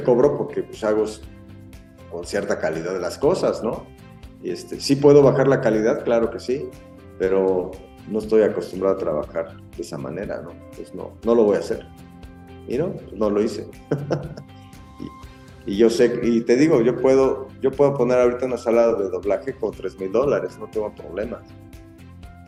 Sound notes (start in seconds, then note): 13.9 laughs